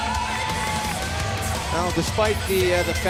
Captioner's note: cheers and applause